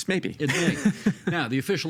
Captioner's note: laughing